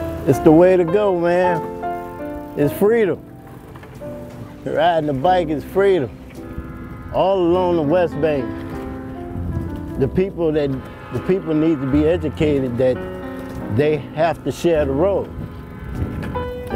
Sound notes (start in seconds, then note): 9.9 train horn blowing